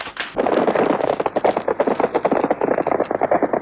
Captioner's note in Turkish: Nal sesleri